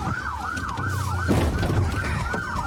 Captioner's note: bangs